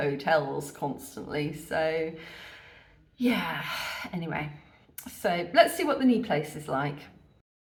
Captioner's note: sigh